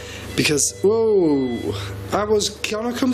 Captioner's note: machine beeping